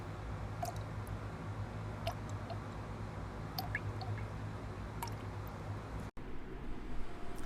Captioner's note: drip...drip